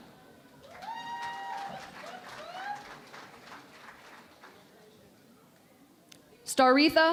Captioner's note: cheering and Applause